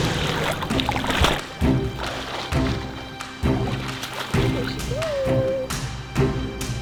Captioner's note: water splashing; dramatic music